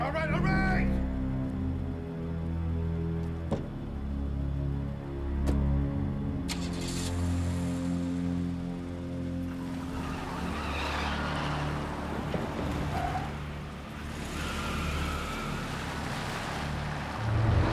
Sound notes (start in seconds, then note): 5.9 door closes; 6.7 car starts; 10.0 tires screech